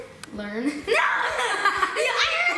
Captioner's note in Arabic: يضحك